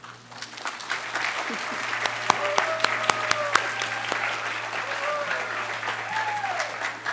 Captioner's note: applause